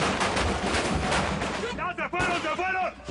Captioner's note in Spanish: Disparos